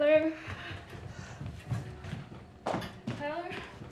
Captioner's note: footsteps retreating